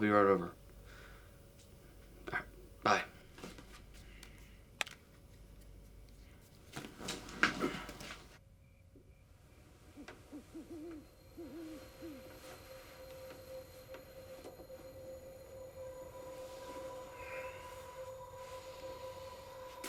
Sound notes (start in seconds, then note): 11.4 owl hooting